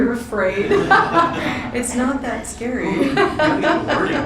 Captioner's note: laughing